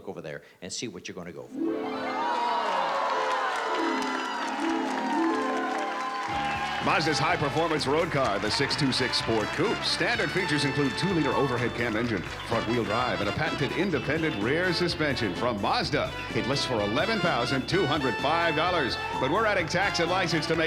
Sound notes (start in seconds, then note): 1.8 harp music; 3.6 cheering